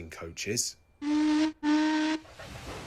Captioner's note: adam whistles